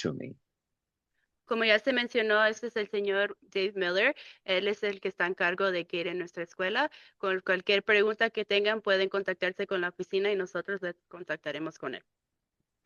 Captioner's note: speaking in Spanish